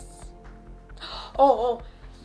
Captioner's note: gasps